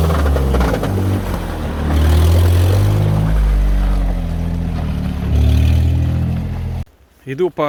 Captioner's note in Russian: Звук рёва мотора